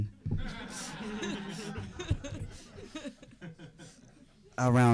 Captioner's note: audience laughing